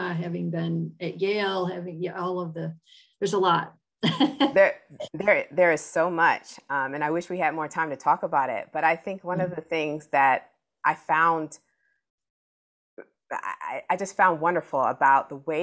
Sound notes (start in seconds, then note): 4.1 laughs